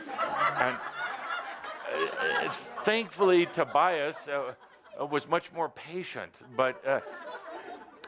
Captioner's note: laughter